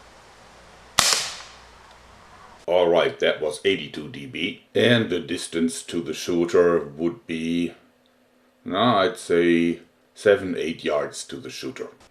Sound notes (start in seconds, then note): 0.9 shot